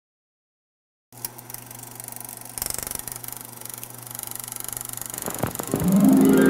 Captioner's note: old film projector